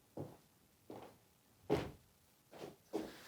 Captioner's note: sudden footsteps